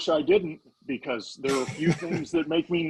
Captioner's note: laughing